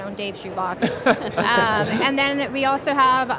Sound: crowd chuckles

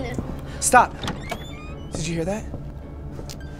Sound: door creaks

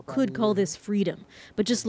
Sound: speaking alternate language

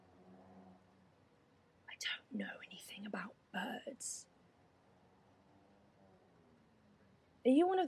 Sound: whispering conspiratorially

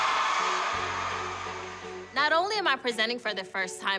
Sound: cheering, applauding

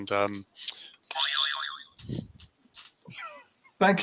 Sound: boing

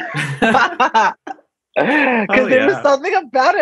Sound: laughs; laughs too

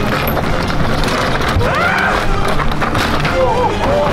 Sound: crowd; dramatic music; crowd; dramatic music

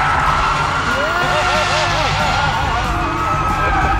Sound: laughter

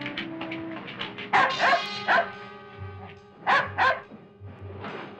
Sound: dog barking

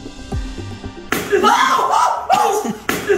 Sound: A chimpanzee's crying! Lol

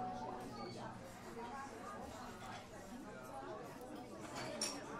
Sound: background noise of people talking

